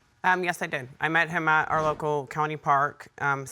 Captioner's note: none